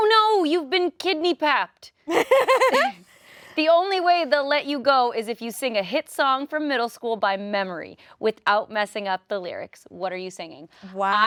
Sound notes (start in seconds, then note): 2.0 laughs